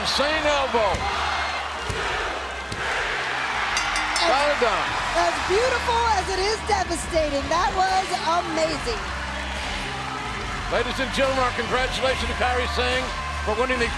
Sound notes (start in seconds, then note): 3.7 bell ringing